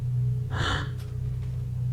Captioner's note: exhale